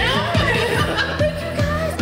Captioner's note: all laughing